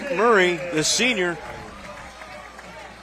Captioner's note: applause